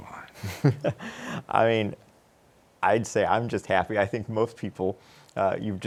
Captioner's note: chuckles